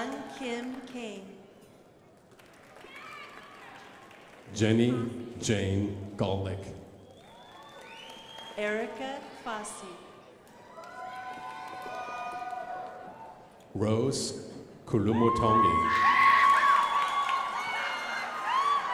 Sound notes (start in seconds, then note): 0.0 crowd applauding; 2.2 crowd applauding; 7.0 crowd applauding; 10.6 crowd applauding; 15.6 crowd applauding